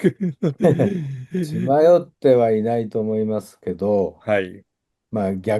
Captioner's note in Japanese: 笑い